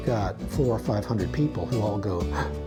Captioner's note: gasps